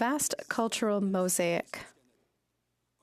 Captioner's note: speaking French